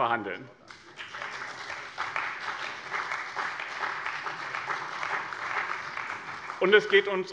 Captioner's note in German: Beifall bei dem BÜNDNIS 90/DIE GRÜNEN und der CDU